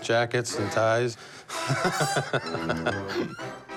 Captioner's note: laughs